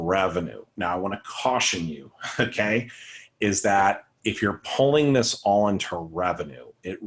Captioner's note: chuckle